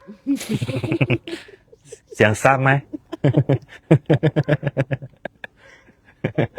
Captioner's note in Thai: เสียงหัวเราะ